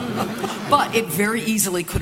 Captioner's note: laughter